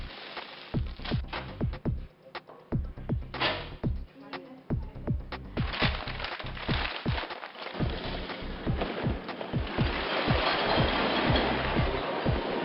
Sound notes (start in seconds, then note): 0.0 crinkling; 3.4 door slamming; 5.5 crinkling; 10.3 clanging